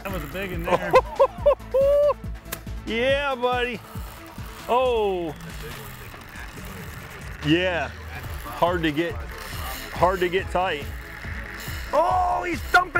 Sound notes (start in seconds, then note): 6.2 reel spinning over speaking; 11.5 reel spinning